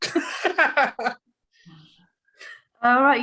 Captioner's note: laughs